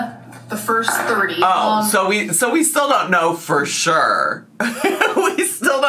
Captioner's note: laughs